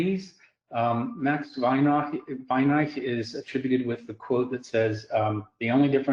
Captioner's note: words in another language